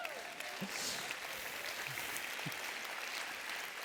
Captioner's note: applause